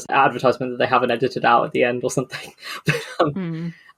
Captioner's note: laughs